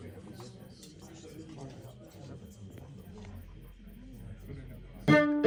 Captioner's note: sounds of anticipation for the concert